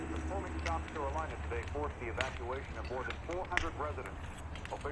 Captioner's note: man, on radio